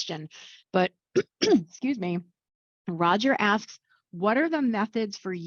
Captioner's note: clears throat